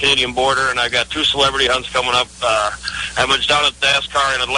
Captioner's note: laughs